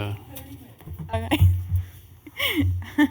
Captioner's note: laughter